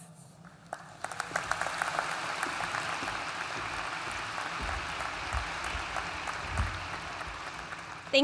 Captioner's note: applause